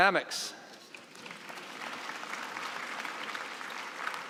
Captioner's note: applause